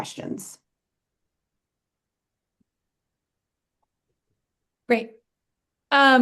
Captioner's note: silence